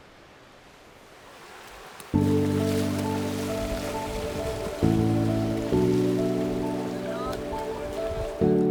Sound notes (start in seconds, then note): 0.9 splashing; 2.1 serene music